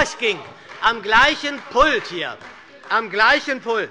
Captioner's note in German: Beifall bei der SPD - Unruhe bei der CDU